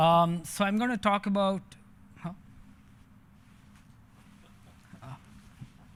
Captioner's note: chuckles